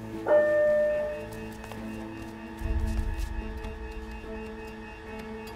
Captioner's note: alarm rings